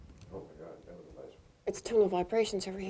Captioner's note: speaks off microphone